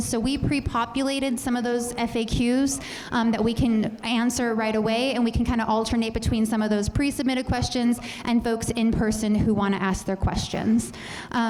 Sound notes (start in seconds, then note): none